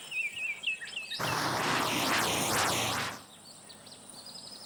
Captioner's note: engine rumbling